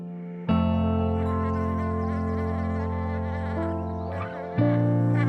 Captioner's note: buzzing bees